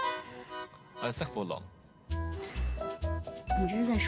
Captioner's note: French